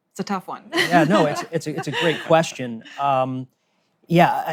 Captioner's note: laughs